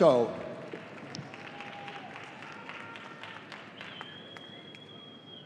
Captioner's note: audience applauding